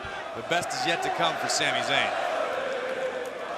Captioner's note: crowd cheering